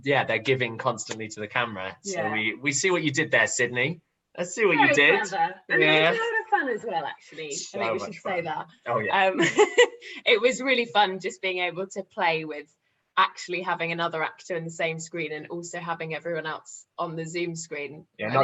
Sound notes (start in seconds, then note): 9.4 laughter